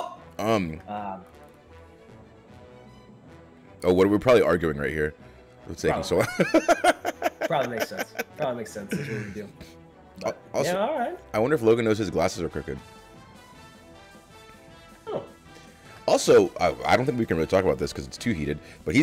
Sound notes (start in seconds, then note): 6.3 laugh